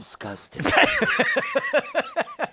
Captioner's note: laughs